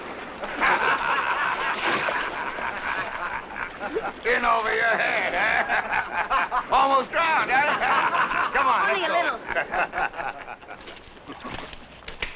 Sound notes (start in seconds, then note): 2.4 laughing